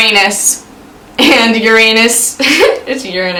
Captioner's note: laughs